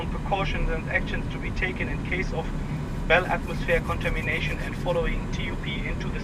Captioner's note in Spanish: voz por altavoces